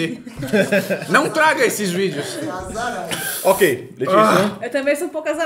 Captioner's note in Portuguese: risos